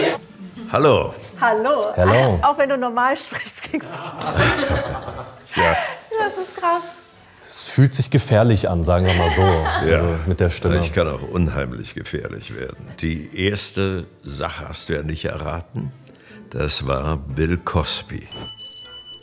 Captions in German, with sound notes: Hallo. - Hallo. Auch wenn du normal sprichst, klingst du... Das ist krass. Es fühlt sich gefährlich an, sagen wir mal so. Ja, ich kann auch unheimlich gefährlich werden. Die erste Sache hast du ja nicht erraten. Das war Bill Cosby. (Klingelton)